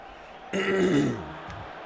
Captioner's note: clears throat